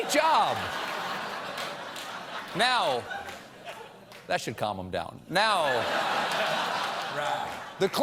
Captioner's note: laughter